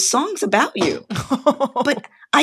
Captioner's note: laughter